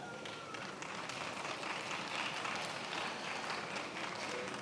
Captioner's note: attendees applauding